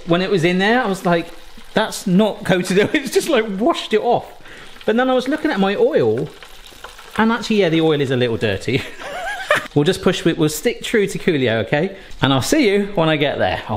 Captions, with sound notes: When it was in there, I was like, "That's not coated. "It's just, like, washed it off." But then I was looking at my oil, and actually, yeah, the oil is a little dirty. (laughs) We'll stick through to Coolio, okay? And I'll see you when I get there.